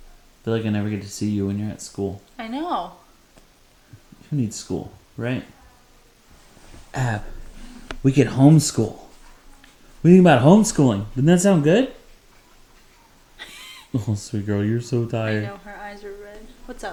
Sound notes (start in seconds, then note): 13.3 chuckling